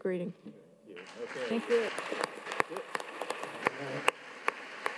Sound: audience claps

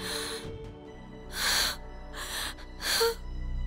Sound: gasps

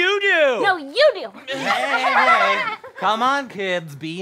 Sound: laughs

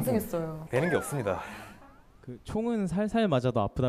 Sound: confident

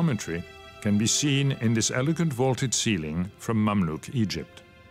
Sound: speaks French

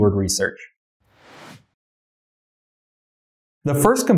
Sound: air whooshing

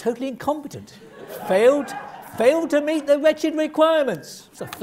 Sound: laugh

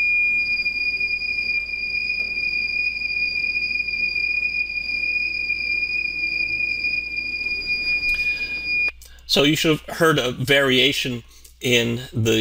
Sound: high Pitched Tone

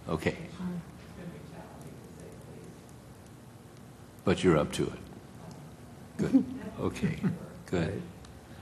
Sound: laugh

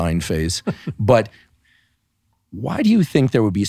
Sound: laughing

